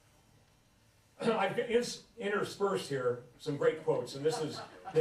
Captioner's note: laughter